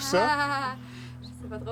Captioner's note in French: rires nerveux